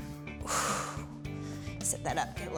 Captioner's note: exhales